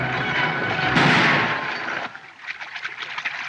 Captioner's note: gunshot